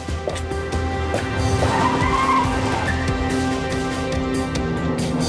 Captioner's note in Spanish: Sonido al abrir la puerta